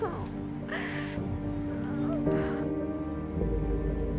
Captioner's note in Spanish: Sollozos